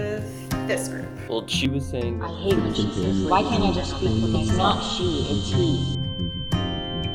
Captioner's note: speech becomes muffled